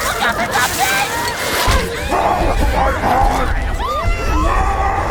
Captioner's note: smack